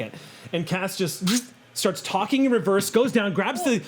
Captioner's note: whizzes